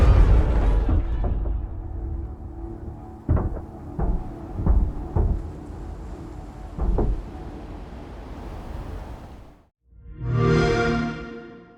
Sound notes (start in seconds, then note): 3.2 clanking; 10.3 Xbox sound